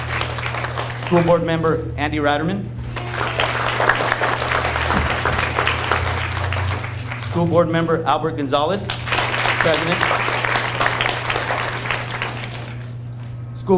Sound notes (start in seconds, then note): 2.8 audience cheers and applauds; 8.8 audience applauds